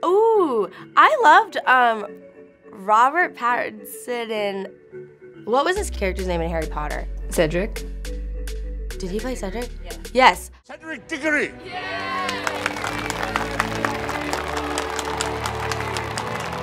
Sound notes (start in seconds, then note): 8.0 gentle music; 12.1 applause